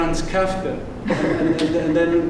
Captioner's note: laughter